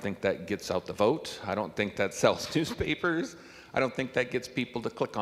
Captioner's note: chuckling